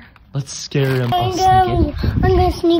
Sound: whispers

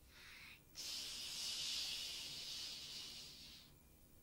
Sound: pretend plane sounds

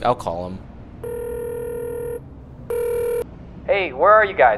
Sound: phone rings

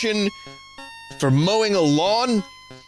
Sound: 90s announcer voice

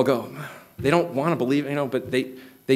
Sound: sighing

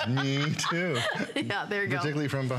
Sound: laughter

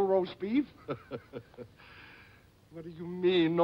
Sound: chuckles

